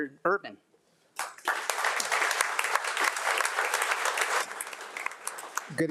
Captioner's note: audience applauding